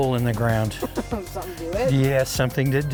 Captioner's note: child laughing